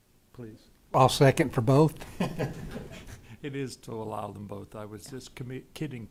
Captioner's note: laughter